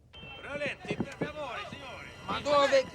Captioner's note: speaking italian